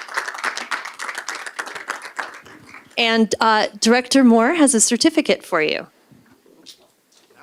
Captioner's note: applause